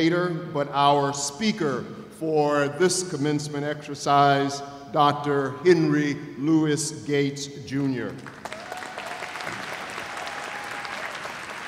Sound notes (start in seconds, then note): 8.3 cheers and applause